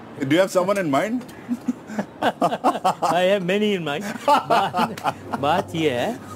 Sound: laughs; laughs; both laugh

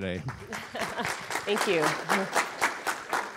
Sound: audience applauding

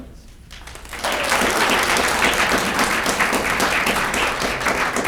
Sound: audience clapping

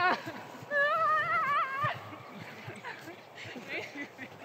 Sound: laughing; shouting

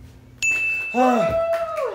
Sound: ding; cheering and clapping

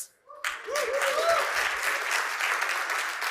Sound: cheering and applause

